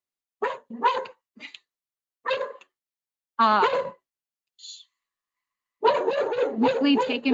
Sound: dog barking

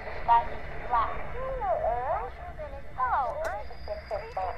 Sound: distorted speech

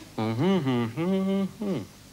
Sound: mumbling

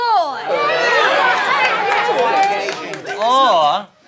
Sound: all agreeing

